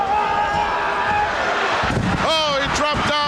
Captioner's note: shouting